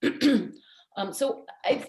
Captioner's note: clears throat